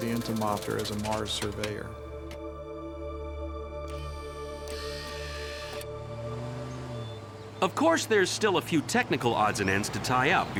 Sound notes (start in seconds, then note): 4.6 machine whirring